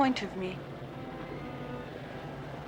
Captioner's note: none